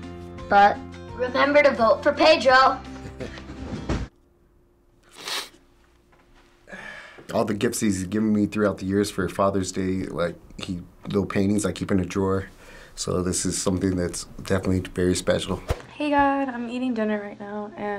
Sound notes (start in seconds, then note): 3.0 chuckles; 5.0 sniffs